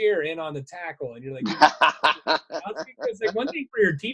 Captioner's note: laughing